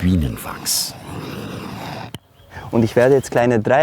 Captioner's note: hissing stops